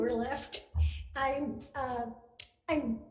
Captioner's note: laughing